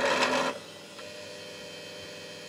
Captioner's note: buzzing